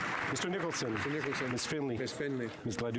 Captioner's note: speaking French